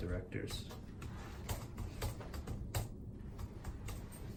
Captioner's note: keys clicking